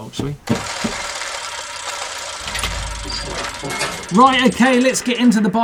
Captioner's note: gears grinding